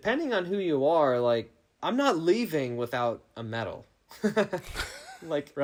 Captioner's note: laughing